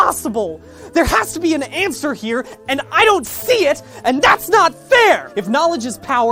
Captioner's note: shouting